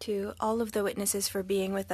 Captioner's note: speaking French